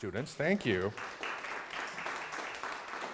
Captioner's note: applause